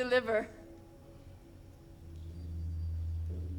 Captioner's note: bell tolls